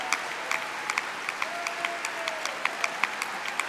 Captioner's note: cheering